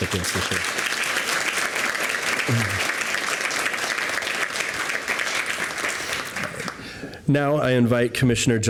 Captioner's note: applause